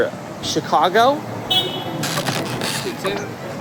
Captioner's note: car Horn